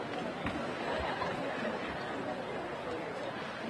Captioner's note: crowd chattering